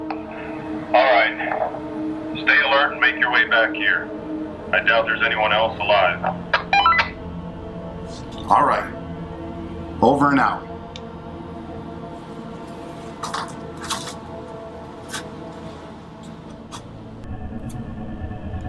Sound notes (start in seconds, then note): 6.5 comm beeping